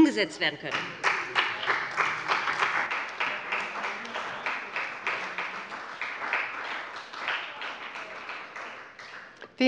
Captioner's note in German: Beifall bei dem BÜNDNIS 90/DIE GRÜNEN und der CDU